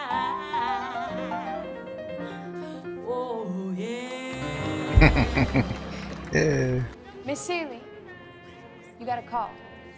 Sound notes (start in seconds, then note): 4.5 laughing